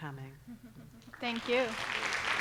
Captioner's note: applause